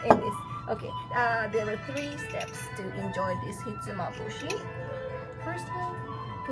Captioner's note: speaks Japanese